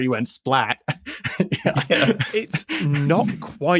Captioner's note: laughs